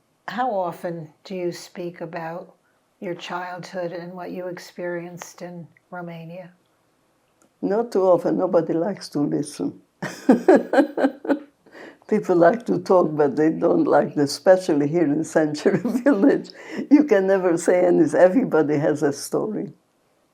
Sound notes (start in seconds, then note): 10.0 laughing